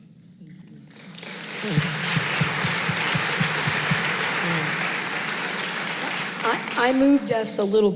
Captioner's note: applause